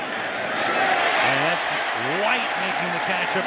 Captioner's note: cheering